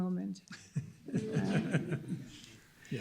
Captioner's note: laughing